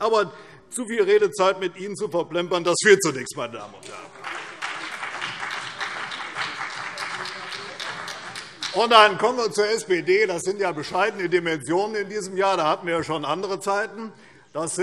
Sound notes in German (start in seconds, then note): 5.4 Beifall CDU und BÜNDNIS 90/DIE GRÜNEN